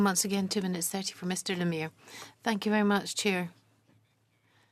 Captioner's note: speaking French